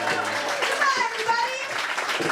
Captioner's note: audience applause